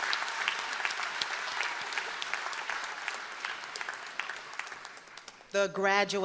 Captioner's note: applause